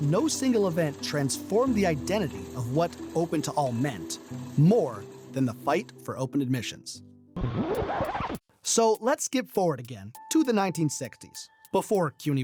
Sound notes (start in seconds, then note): 7.4 record scratching